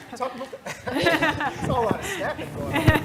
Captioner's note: laugh